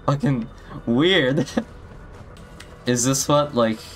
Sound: chuckles

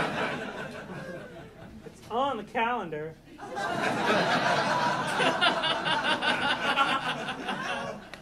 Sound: audience laughing

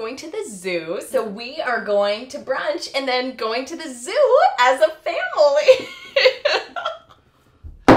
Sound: starts sobbing

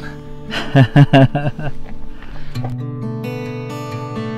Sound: laughing

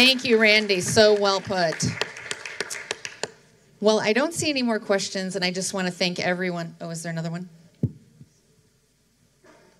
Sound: applause

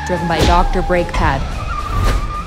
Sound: tires screeching

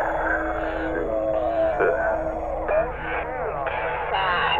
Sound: distorted speech

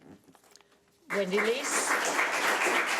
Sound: audience clapping

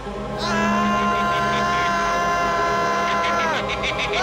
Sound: Giles screams

